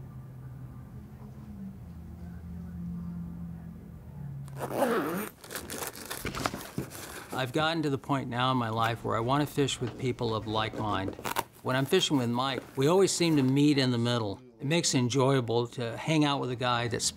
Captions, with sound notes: [ZIPPING] [RUSTLING] I'VE GOTTEN TO THE POINT NOW IN MY LIFE WHERE I WANT TO FISH WITH PEOPLE OF LIKE MIND. WHEN I'M FISHING WITH MIKE, WE ALWAYS SEEM TO MEET IN THE MIDDLE. MAKES IT ENJOYABLE TO HANG OUT WITH A GUY THAT